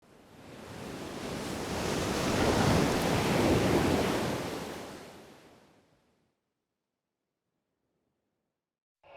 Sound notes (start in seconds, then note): 1.9 waves crashing